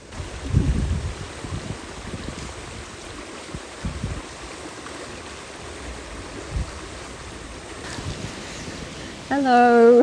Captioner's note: running water